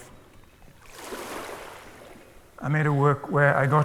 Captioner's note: water splashes